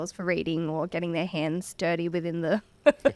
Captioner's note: laughs